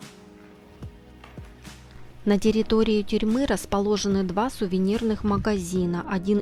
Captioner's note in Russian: закадровый голос